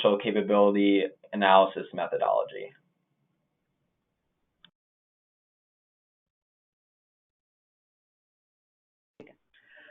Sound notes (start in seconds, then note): 2.7 silence